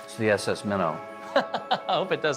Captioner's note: laughing